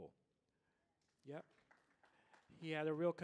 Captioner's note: audience applauding